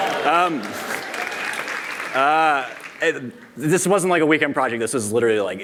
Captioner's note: applause